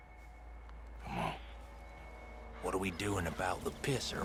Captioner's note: murmurs